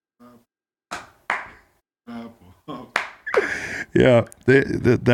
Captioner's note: clapping